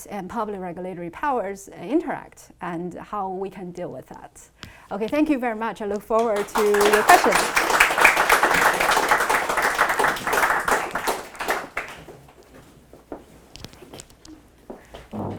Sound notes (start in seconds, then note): 7.7 attendees applauding